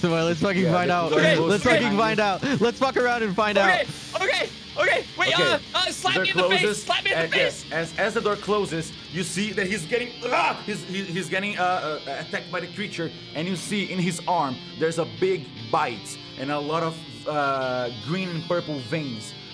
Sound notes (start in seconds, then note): 10.2 scream